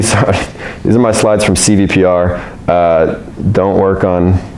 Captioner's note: laughs